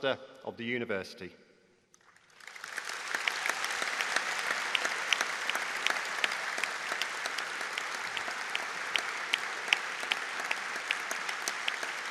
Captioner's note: audience Applause